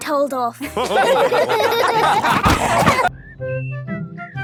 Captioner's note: all laughing